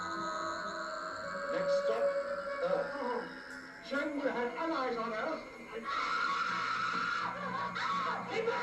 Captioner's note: screaming